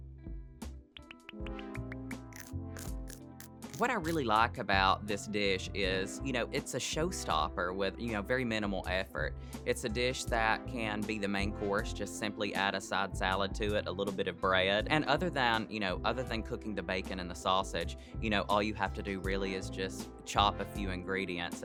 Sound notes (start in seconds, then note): 2.7 bites chomping